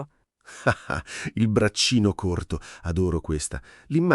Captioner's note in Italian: Haha